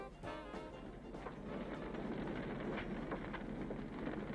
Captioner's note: fire crackles